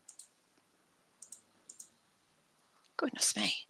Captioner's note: mouse clicking